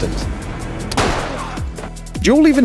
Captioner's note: gunshot